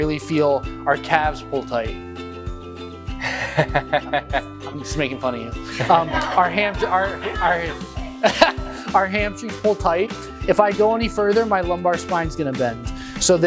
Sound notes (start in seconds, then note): 3.4 laughing; 5.6 class laughing